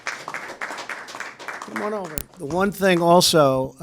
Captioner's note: applause